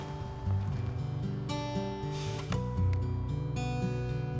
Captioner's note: sighs